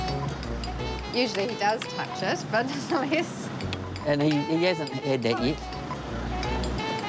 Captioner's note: chuckles